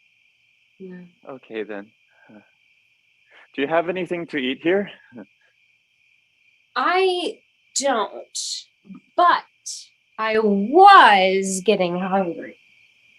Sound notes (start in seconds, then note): none